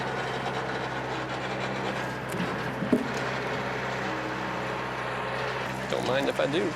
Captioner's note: sawing